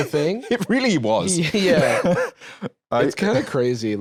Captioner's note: laughs